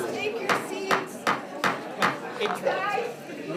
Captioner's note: gavel banging